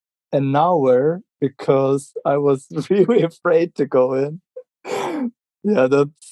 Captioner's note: laughing